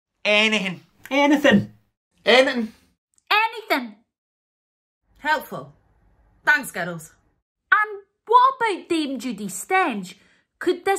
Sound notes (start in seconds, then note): none